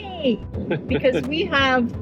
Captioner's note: chuckles